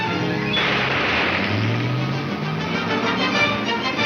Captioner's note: car engine revs